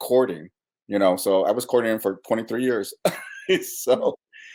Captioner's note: laughs